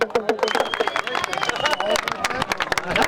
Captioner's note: applause